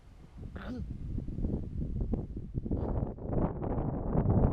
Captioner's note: wind rustling